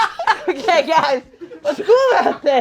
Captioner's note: glass squeaking; all laughing